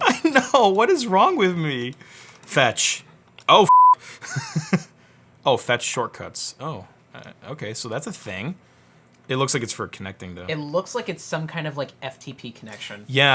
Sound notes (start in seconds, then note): 0.0 laughs; 3.6 beep; 4.2 laughs